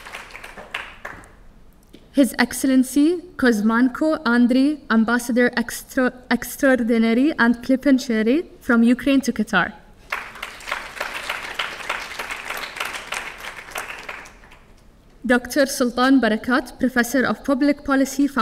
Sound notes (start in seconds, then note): 10.0 audience clapping